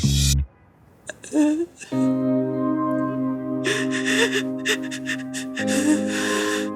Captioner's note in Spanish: Sollozos